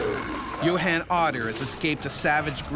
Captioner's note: voiceover